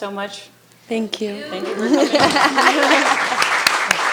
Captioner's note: laughs; attendees applauding